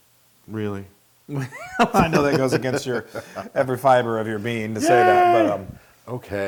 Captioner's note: laugh